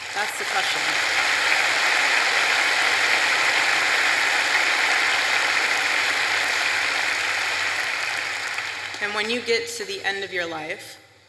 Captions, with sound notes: That's the question. (applause) And when you get to the end of your life --